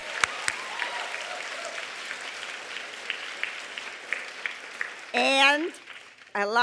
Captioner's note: applause